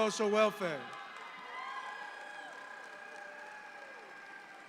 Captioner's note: audience applauds